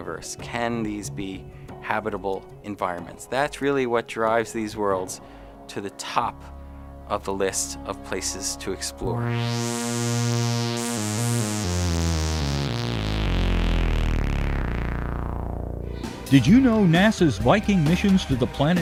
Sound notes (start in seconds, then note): 9.0 sound Effects